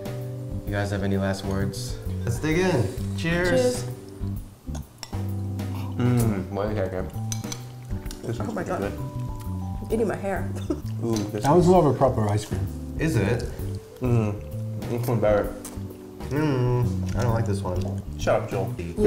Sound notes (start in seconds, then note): 5.9 with mouth full; 10.4 giggles; 13.2 eating noises